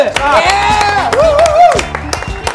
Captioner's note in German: Jubel